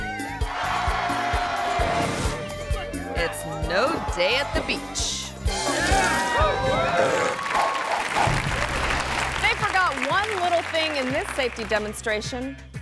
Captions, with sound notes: (spectators cheering and applauding) it's no day at the beach. - Yeah! - Woo! (spectators cheering) (bright music continues) (audience cheering) They forgot one little thing in this safety demonstration.